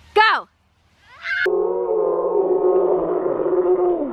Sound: screaming

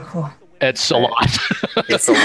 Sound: laughing

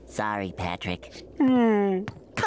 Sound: groaning

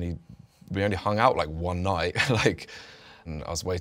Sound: laughs

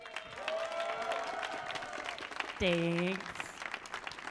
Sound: audience clapping

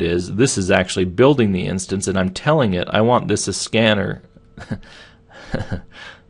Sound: laughing

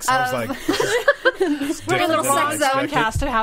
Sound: all laughing

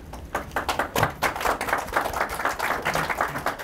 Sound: applause

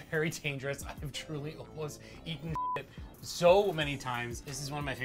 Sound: beep

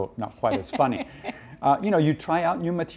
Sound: laughing

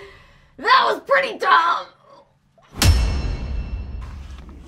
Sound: none

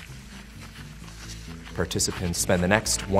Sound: shuffling feet

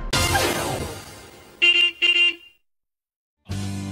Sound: horn honks

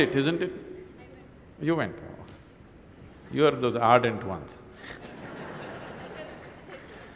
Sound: laughter

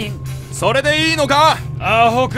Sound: shouting

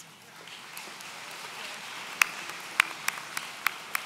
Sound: audience applauds

